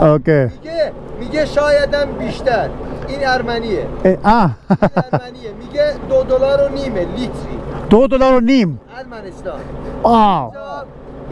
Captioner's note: speaking in Persian